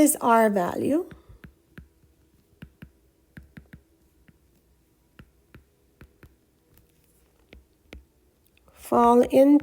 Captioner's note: writing Sounds